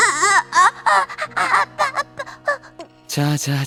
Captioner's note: sob